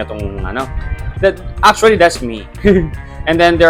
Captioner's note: laughs